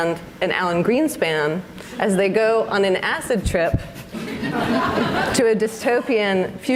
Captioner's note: audience laughs